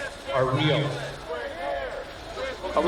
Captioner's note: chanting continues